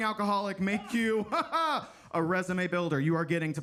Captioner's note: chuckles sarcastically